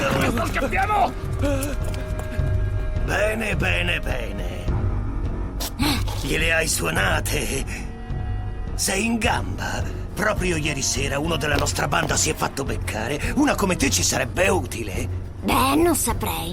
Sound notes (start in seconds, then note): 5.6 gasping